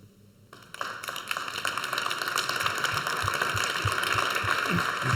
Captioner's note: audience applauds